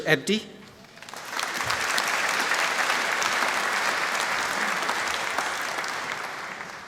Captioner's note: applause